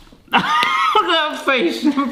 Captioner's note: laughs